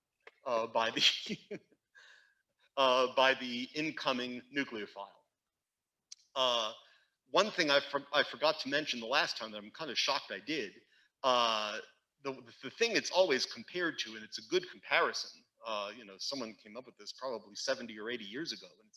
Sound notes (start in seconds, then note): 0.9 instructor laughing